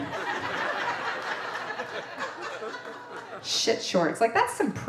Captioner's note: audience laughing